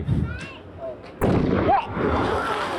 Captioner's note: barrel explodes